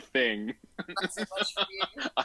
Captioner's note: laughs